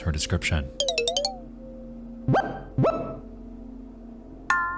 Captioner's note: menu sound effects